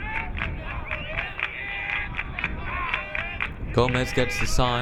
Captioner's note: crowd clapping